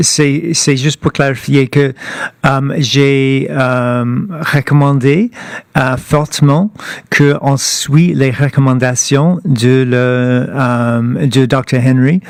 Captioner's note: speaking French